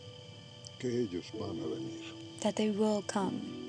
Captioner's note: speaking spanish